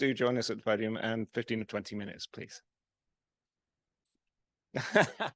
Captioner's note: laughs